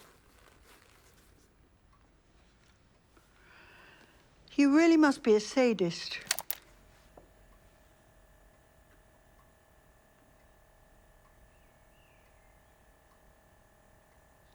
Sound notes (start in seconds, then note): 5.4 recorder clicks; 6.4 recorder quietly whirrs